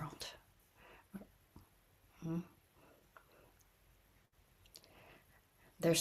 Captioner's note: pause